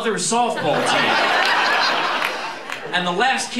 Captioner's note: laughter